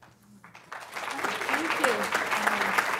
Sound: applause

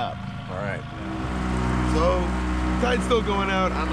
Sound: boat engine running

